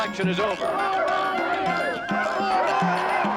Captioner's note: cheering